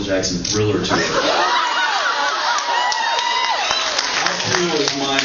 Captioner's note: cheers